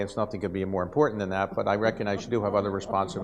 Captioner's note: audience laughs